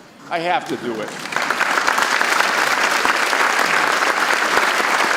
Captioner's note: audience applauds